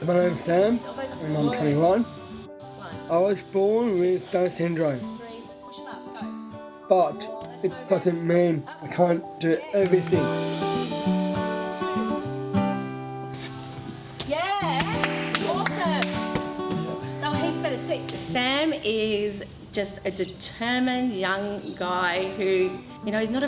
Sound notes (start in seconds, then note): 10.5 calm upbeat music; 14.7 claps